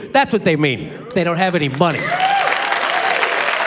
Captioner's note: cheering, applause